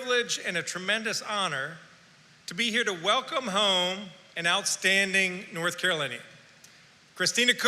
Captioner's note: none